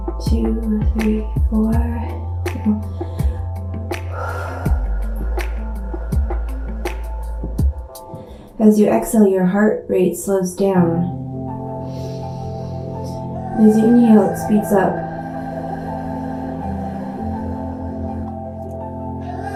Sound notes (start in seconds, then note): 2.8 exhaling; 11.8 inhaling